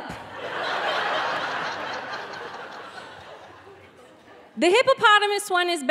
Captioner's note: audience laughing